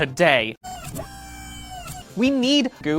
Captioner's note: robot noises